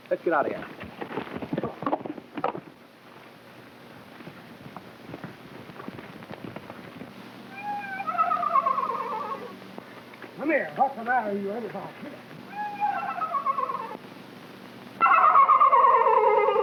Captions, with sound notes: Let's get outta here. (hooves clopping) Come on. (horse whinnies) - Come here. What's the matter with you, anyhow? (horse whinnies)